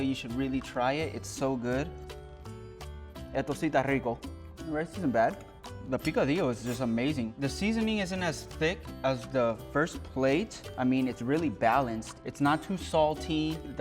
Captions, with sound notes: you should really try it. It's so good. (gentle music) (speaking in foreign language) The rice isn't bad. The picadillo is just amazing. The seasoning isn't as thick as the first plate. I mean, it's really balanced. It's not too salty.